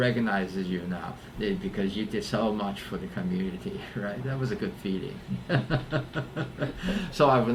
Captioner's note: laughs